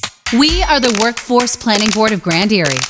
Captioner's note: voiceover